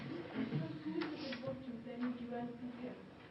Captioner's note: laughter